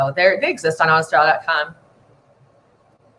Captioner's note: none